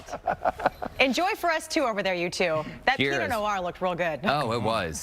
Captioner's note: laughter